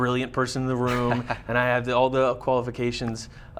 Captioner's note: laughs